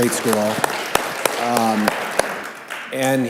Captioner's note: clapping